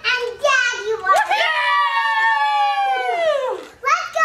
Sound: cheering

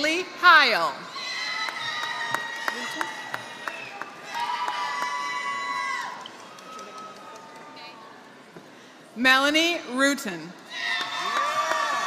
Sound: applause; applause

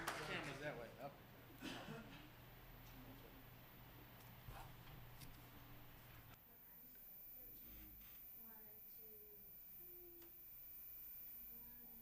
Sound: applause

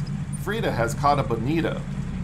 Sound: reel cranking

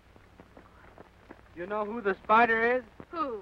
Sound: none

